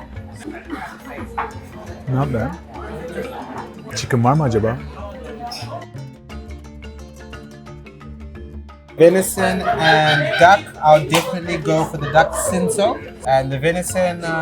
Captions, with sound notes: Not bad. (Turkish) Is there chicken? Venison. And duck. I'd definitely go for the duck, Cinsaut, and the venison...